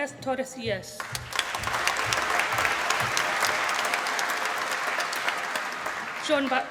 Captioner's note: applause